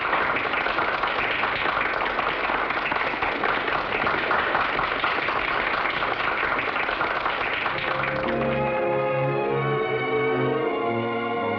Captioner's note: loud applause